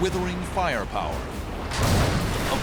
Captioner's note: explosion